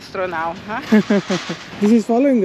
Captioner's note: chuckles